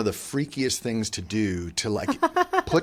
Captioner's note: laughs